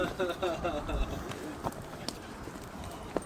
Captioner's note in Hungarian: nevetés